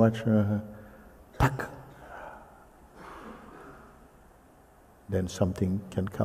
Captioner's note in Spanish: imita el sonido de los palitos